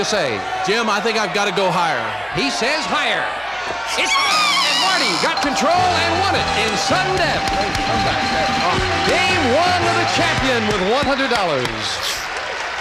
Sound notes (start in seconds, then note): 4.2 buzzer